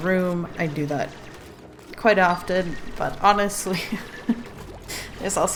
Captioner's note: laughs